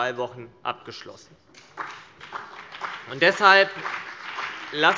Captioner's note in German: Beifall CDU und BÜNDNIS 90/DIE GRÜNEN